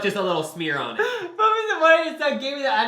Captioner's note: laughing